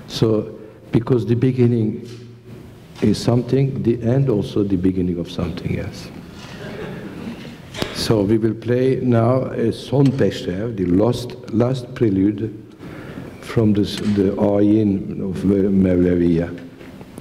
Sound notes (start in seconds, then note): 6.5 laughter